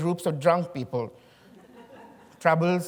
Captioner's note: chuckling